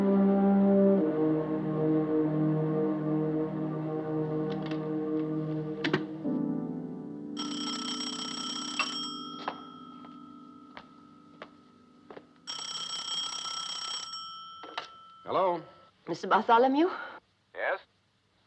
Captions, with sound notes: [Phone Ringing] - Hello? - Mr. Bartholomew?